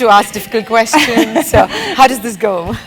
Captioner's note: laugh